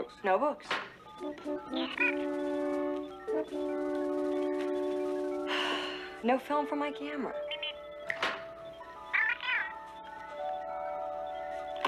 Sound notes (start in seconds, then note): 5.4 sighs; 8.0 Steve Trevor snaps his Fingers